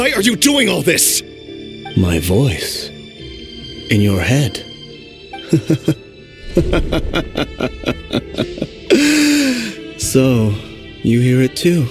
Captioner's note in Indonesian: Tertawa